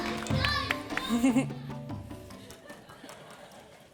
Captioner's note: child shouts